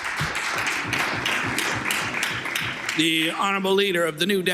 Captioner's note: some Applause